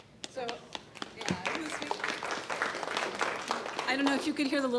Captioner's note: audience claps